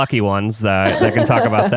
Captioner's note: laughs